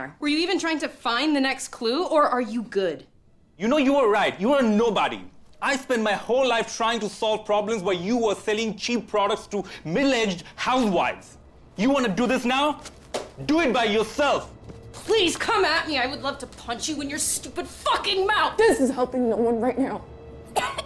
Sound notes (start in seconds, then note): 12.8 packet thumping